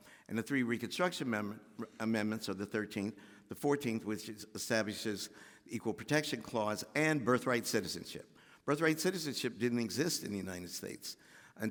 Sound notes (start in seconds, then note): none